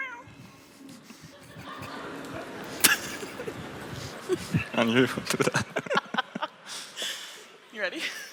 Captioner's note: laughter